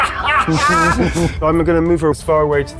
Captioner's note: players chuckling; laughs